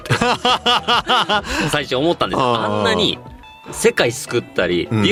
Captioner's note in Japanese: 笑い